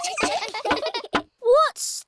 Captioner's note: all giggling